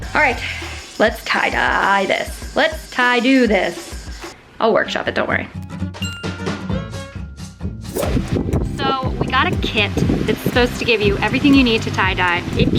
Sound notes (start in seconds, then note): 0.0 ominous music; 5.6 upbeat western music; 6.0 chime